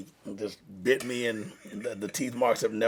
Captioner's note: laughs